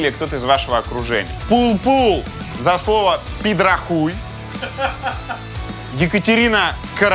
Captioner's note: camerman laughing in the back